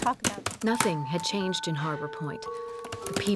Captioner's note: typing